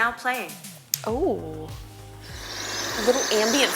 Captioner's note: forest sounds